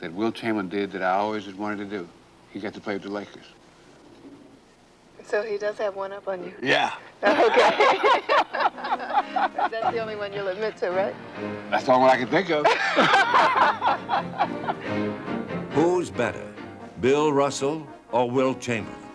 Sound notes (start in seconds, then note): 7.2 both laughing; 12.2 Jayne and Bill laughing; 13.4 dramatic music